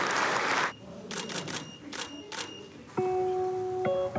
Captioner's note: camera shutter snaps; gentle music